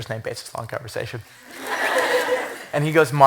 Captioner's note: laughter